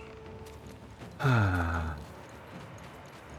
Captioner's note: sigh